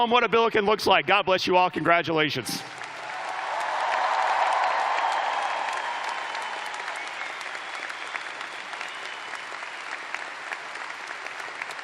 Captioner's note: cheers and applause